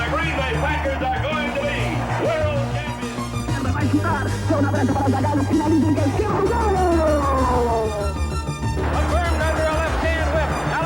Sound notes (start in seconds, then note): 3.5 announcer speaking in foreign language